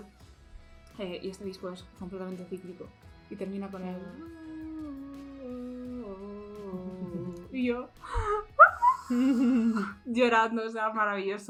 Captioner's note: screaming